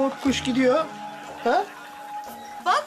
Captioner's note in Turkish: Televizyon cızırtı sesi